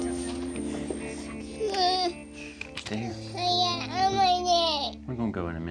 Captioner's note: fussing